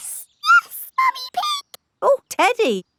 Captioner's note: in high-pitched voice